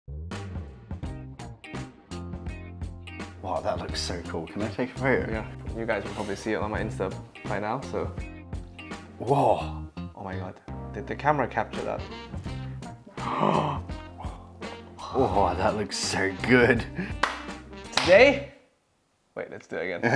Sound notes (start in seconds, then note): 0.0 upbeat music; 13.1 gasping